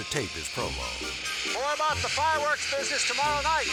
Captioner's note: fireworks hissing